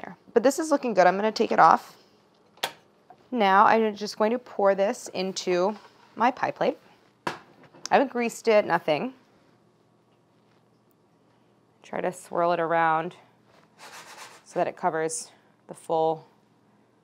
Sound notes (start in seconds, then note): none